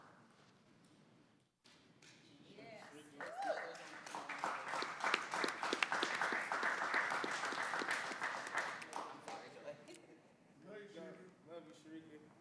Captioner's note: applause